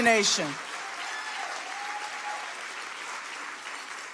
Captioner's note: audience applauding